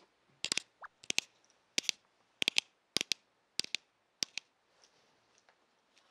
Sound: skilled tapping

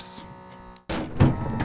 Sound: bang; whir changes pitch as tray is freed

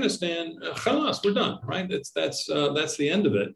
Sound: speaks in Arabic

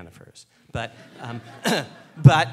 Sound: laughing

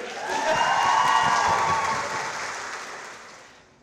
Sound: audience cheering

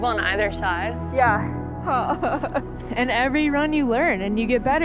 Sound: laughs

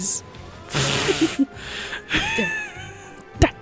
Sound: laughing

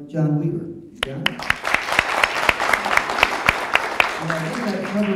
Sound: audience applause

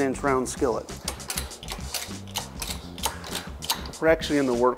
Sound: metal clangs

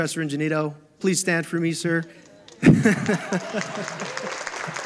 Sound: audience applauding; laughs

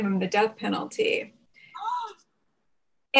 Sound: off-screen gasps

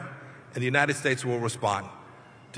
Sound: none

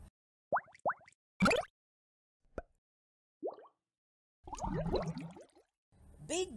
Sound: sounds of bubbles

